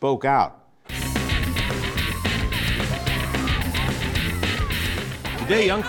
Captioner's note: cheering